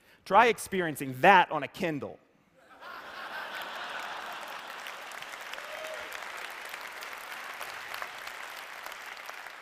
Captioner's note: laughter